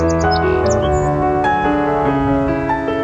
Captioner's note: birdsong